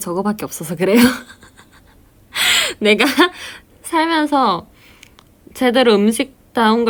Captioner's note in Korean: 웃음